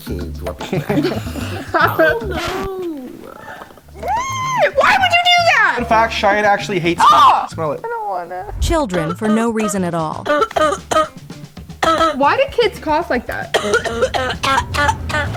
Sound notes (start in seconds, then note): 0.6 laughing; 4.9 exclaims; 10.2 person coughing